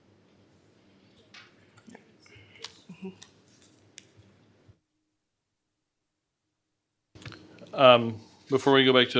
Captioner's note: speaking foreign language